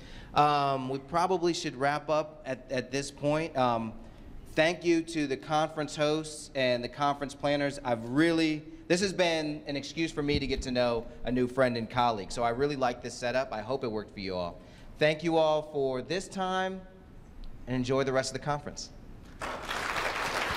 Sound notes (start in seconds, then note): 19.3 applause